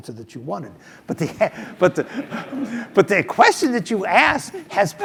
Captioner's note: laugh